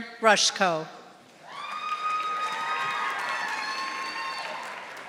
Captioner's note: audience applauding